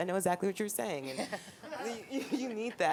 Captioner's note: laughing